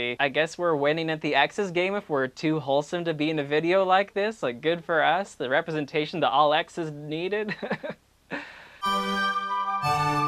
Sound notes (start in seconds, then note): 7.8 laughs